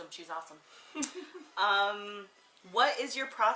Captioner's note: laughs